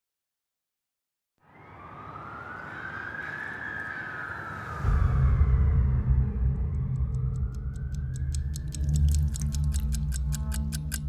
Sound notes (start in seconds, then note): 1.4 siren blaring; 6.6 ticking